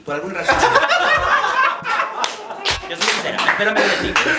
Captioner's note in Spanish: Risas